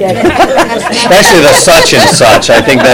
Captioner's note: laughter